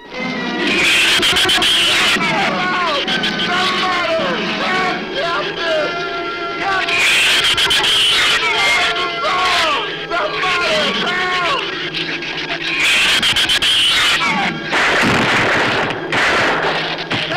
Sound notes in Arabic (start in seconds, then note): 0.1 صراخ الزبابة; 7.2 صرخة الزبابة; 12.6 صراخ الزبابة; 14.6 إطلاق نار